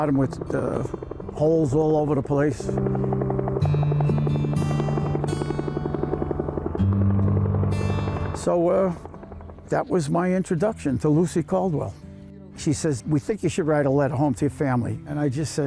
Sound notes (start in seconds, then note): 2.9 helicopter whirring